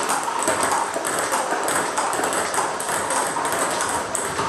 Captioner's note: ball ping pong hitting continues